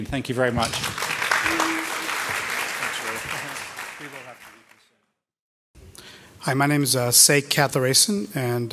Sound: applause

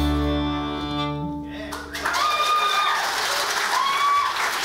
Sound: audience applauds

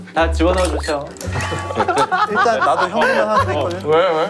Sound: bursts out into laughter

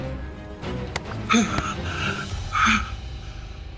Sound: gasping

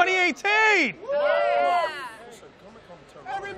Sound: cheering

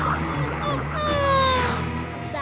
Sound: whimpering; laughing

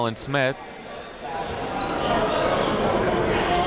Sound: chatter

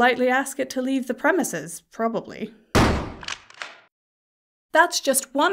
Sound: shotgun sound effect

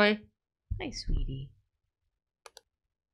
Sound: quietly

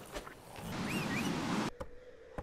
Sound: whistle

